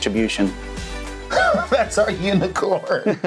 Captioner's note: laughing